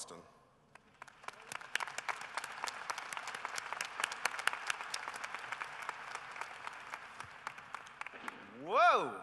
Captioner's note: applause